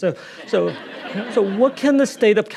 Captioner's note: audience laughing